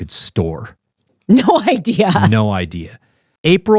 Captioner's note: laughing